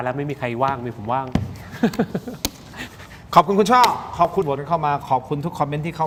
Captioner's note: laughter